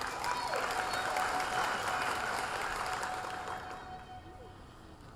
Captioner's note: audience applauding